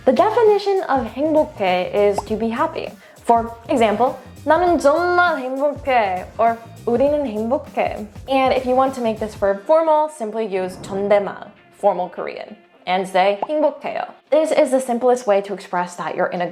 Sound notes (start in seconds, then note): 1.1 speaks in Korean; 2.1 bubble bursting; 4.5 speaking in Korean; 6.6 continues speaking in Korean; 10.9 speaks in Korean; 13.2 speaking in Korean; 13.8 bubble popping